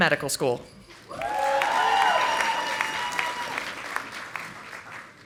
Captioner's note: audience applauding